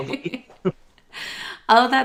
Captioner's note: laughter